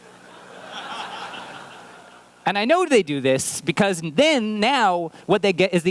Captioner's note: laughter